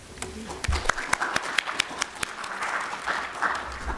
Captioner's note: applause